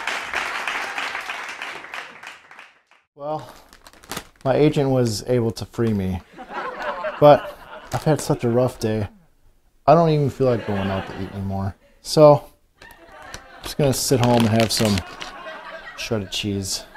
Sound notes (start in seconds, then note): 0.0 cheering and applauding; 3.1 cheering and applauding; 6.2 laughter; 10.4 laughter; 12.8 laughter